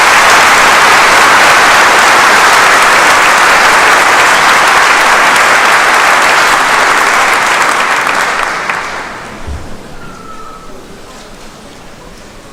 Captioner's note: applause